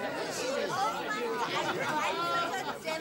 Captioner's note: chatter